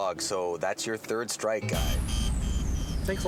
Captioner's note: buzzing